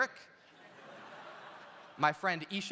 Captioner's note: audience laughs